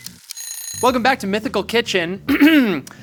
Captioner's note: alarm ringing